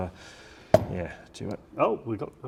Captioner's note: box popping